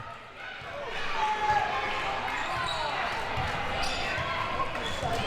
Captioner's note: audience chattering and yelling